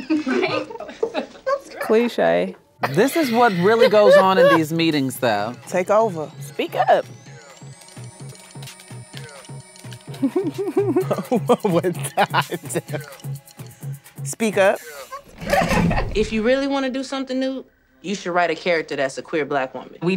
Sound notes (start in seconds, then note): 0.1 laughs; 7.4 upbeat music; 10.0 laughs